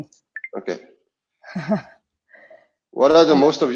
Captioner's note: laughs